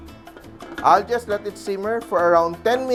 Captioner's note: rattle